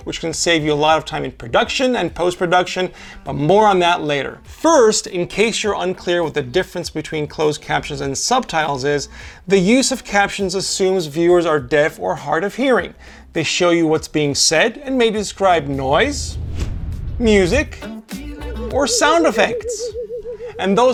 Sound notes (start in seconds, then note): 15.8 whoosh sound and thomp; 18.7 UFO whirring sound